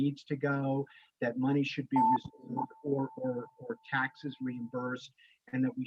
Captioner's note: phone beeps